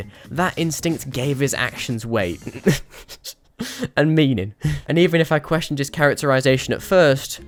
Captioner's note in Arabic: ها ها!